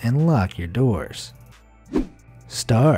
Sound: air whooshing

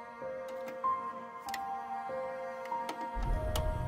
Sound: VHS Tape tape recorder starts

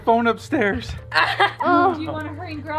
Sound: laughs

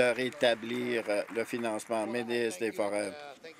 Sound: applause

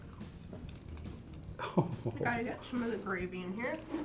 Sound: chuckles

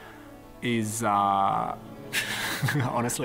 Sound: laughs

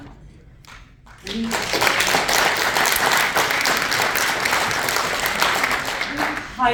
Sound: applause

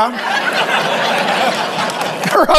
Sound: congregation laughing

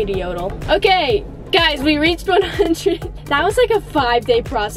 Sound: laughs

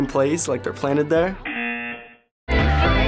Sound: buzzer

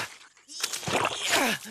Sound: effort grunts

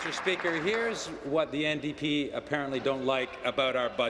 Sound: applause

